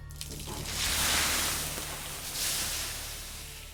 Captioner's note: steam hisses